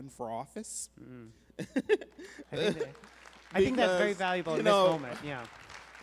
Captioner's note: applause